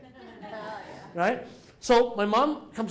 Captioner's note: laughter